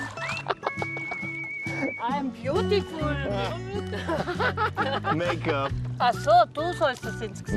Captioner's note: laughter